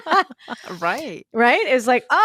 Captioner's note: laughter